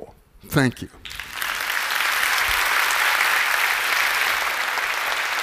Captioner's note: applause